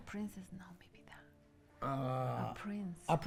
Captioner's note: whispers